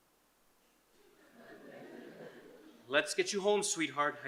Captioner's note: audience chuckles